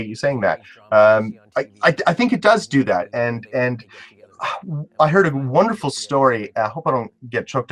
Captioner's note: sigh